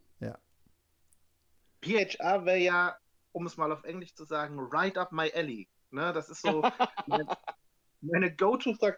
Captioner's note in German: gelächter